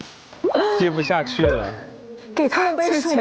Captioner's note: tapping on the tire